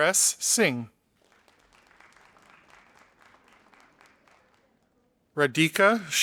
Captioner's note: audience applauding